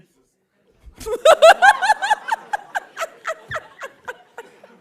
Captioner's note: laughing